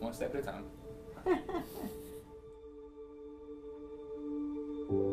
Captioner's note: laughing